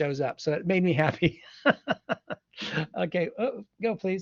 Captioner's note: laughs